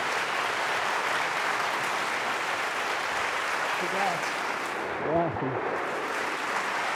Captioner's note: applause